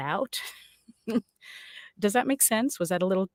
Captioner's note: laughs